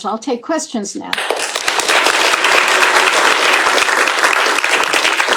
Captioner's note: applause